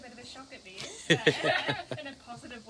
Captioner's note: laughing